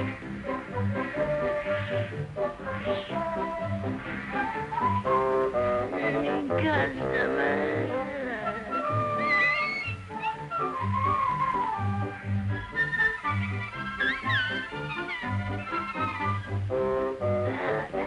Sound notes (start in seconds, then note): 8.8 whistling; 14.1 whistling